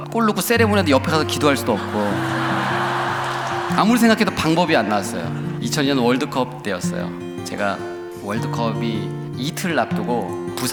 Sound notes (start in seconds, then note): 1.1 laughter